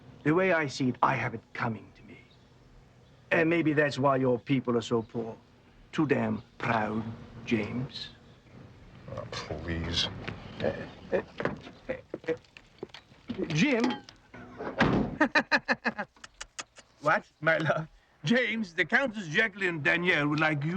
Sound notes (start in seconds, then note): 11.8 happy groaning; 15.1 happy laughing; 16.2 tongue clicking